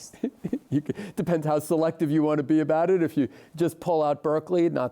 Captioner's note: laughs